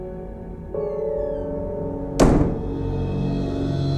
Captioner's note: door slams